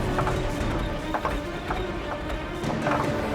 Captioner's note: engine stalling